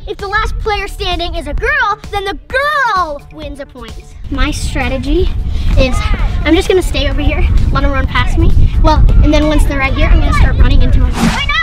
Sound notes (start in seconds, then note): none